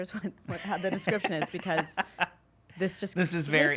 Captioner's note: laughing